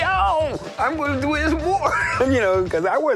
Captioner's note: chuckles